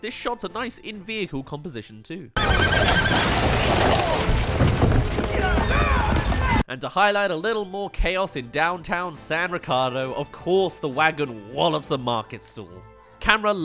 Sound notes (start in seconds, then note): 2.4 hits* *Scurries